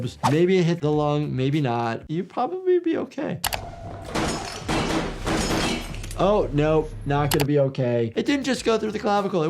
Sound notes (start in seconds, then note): 4.1 gunshots cracking